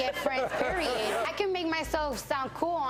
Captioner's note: audience laughing